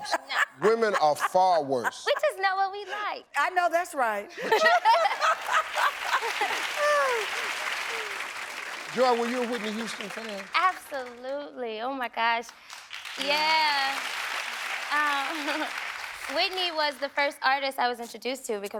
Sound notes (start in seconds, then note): 0.3 audience member laughing; 4.4 laughing; 4.6 audience applauding; 7.0 sighs; 12.6 audience applauding; 15.3 chuckles